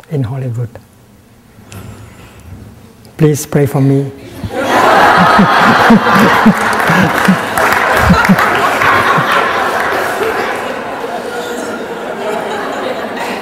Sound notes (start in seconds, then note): 4.4 laughter and clapping